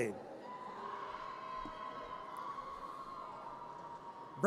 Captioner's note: audience cheers